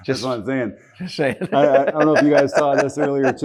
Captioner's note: laughs